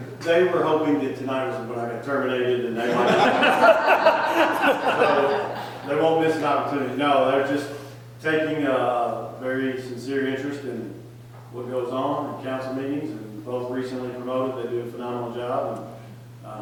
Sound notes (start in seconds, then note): 2.7 people laughing